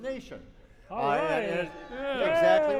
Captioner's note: cheers